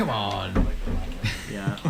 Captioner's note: laughs